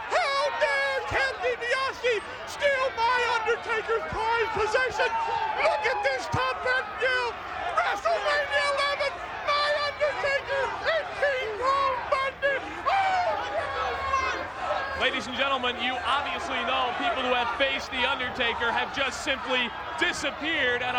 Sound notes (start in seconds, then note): 13.7 audience chanting